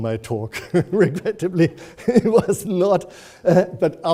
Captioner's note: laughing